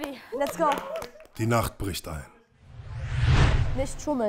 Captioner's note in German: Sausendes Geräusch